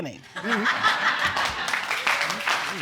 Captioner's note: audience laughing, clapping